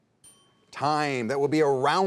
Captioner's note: bell dinging